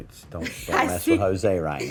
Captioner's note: laugher